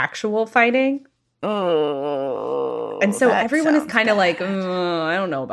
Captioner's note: groaning